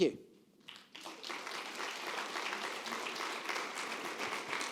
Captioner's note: audience clapping